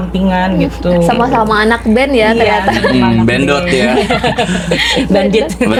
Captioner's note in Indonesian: tertawa